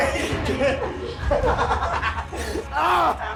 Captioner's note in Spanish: Risas